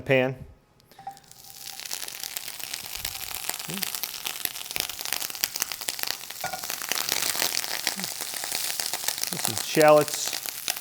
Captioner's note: butter sizzling; sizzling